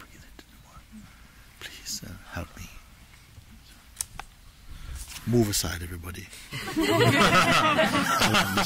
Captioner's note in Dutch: gelach